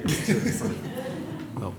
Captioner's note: laughter